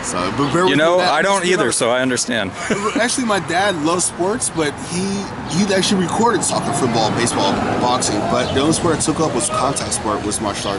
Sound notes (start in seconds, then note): 2.4 interviewer, laughing